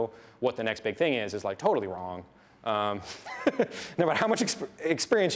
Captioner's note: laughs